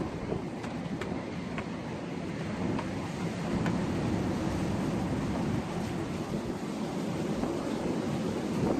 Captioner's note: wind gust; wind noise; gusty noise